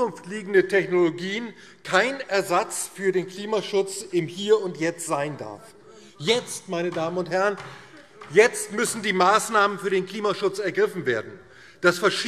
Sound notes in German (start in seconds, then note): 5.7 Beifall DIE LINKE